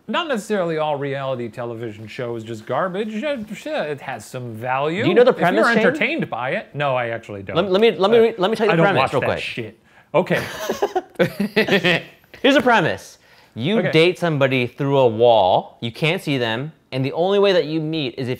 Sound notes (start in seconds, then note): 10.3 laughter